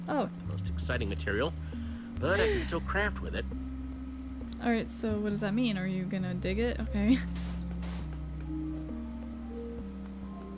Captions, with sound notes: Oh. (sighs) All right so what does that mean? Are you gonna dig it? Okay. (digging in sand)